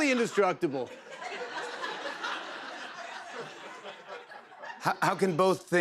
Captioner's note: laughter